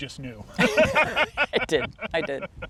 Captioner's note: both laughing